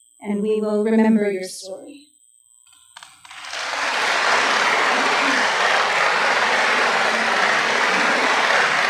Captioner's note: applause